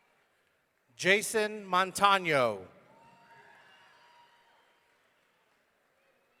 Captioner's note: audience cheering